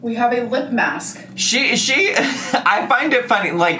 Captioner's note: laughs